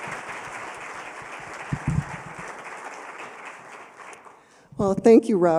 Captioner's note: applause